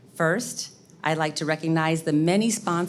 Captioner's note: none